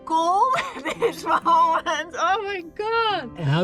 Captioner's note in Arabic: يضحك